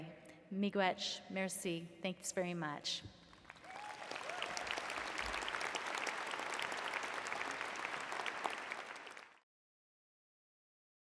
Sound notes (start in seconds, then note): 3.3 applause